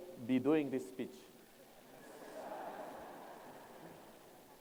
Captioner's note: laughter